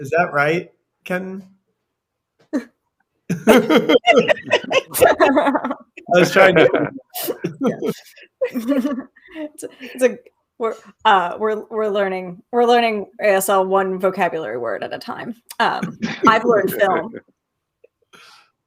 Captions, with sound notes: Is that right? Ken. (group laughing) - We're learning ASL, one vocabulary word at a time. I've learned film.